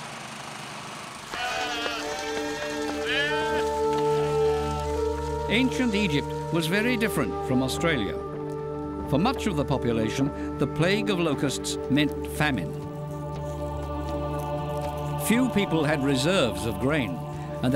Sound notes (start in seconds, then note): 1.3 sheep bleating; 13.6 men chanting